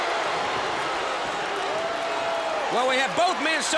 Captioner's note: crowd cheering